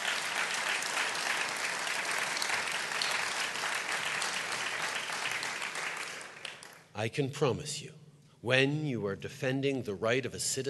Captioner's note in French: Applaudissements